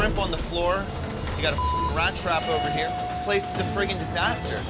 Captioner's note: beep